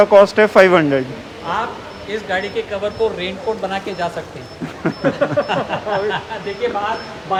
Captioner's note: laughter